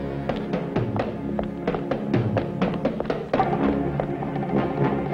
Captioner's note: footsteps thudding; suspenseful music